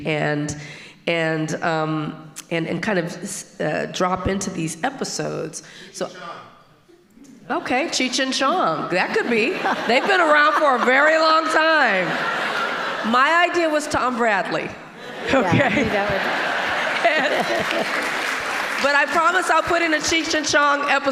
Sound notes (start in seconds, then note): 13.1 all laughing; 15.9 audience applauding